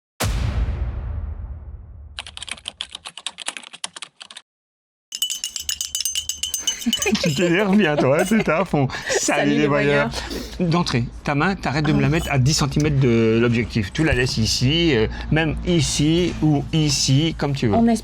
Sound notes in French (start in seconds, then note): 6.9 rires